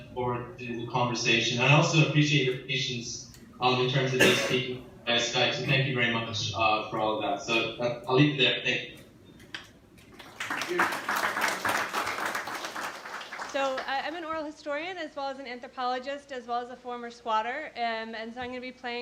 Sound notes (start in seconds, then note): 10.1 audience applauding